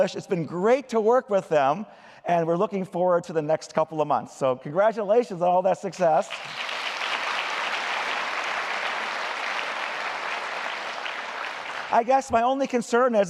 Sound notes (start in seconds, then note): 6.2 applause